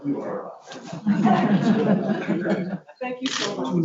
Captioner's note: laughs